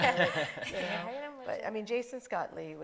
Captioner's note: panelists laughing